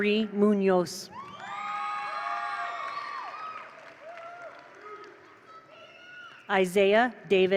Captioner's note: attendees cheer; attendees applaud